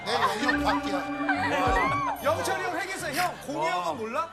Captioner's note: wah